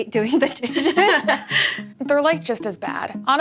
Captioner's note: laughs